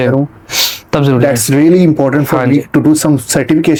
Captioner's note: nasal sound